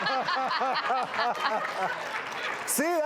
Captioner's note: laughing